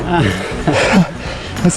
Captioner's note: laughing